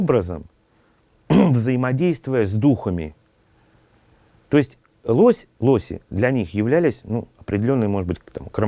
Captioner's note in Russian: откашливается